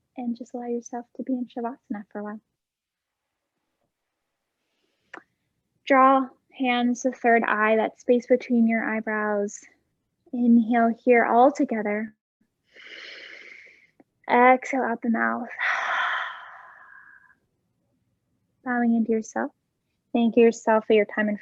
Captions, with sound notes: and just allow yourself to be in Shavasana for awhile. Draw hands, the third eye that space between your eyebrows, inhale here all together (inhaling), exhale out the mouth (exhaling), bowing in to yourself, thank yourself for your time